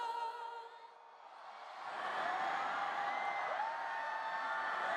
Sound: cheers and applause

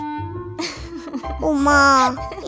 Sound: laughing

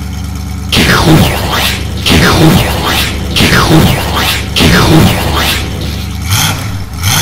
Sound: explosions; motor revs

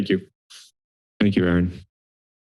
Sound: silence

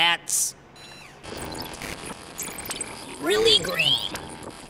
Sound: technological sounds

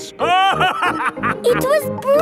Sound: laughing

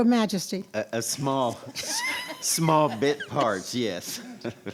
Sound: audience laughs; laughs

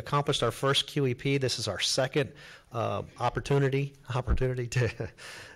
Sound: chuckles

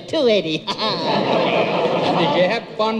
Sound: audience laughs

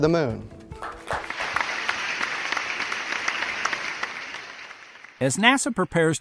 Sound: applause

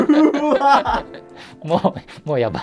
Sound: laughing

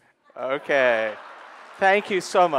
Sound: audience applauding

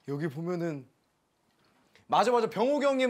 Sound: astonished

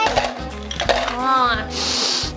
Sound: werewolf droppings clanking; sniffs

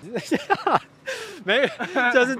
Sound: inhale

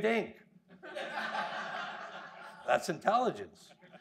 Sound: audience laughing

